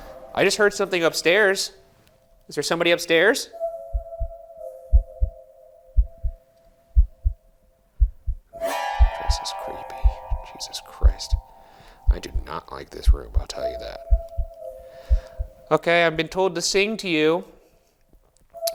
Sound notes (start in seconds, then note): 5.3 eerie music; 6.3 heart beating